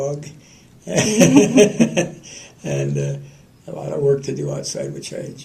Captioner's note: laughter